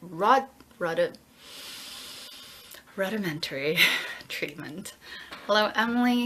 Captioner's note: breathes heavily